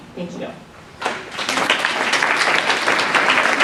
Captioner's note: applause